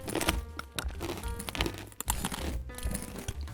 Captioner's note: glass crunching